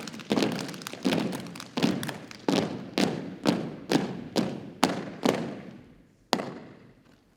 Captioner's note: rhythmic thumping and clapping continues